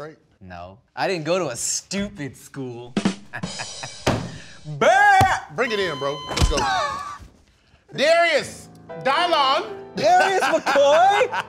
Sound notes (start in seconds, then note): 3.3 laughs; 5.6 defibrillator Beep